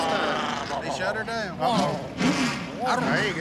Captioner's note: revving engine